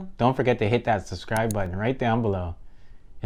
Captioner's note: button clicking